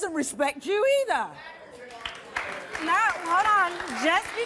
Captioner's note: crowd applauds